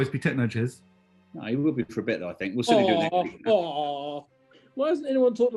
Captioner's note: mockingly